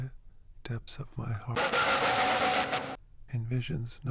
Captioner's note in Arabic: انفجار يخترق الأذن